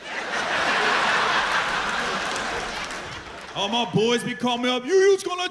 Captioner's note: laughter